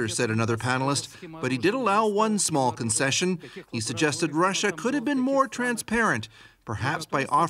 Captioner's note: speaking russian